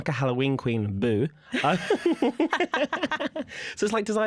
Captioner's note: laughter